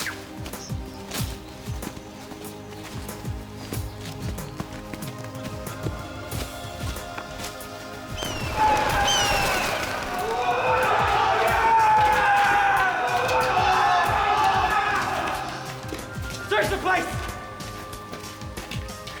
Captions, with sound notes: (birds cry) (shouting) Search the place.